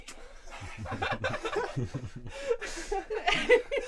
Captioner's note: both laughs